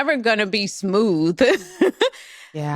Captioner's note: laughs